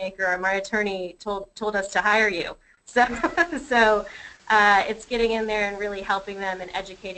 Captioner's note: laughs